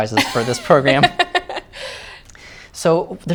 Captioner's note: laughter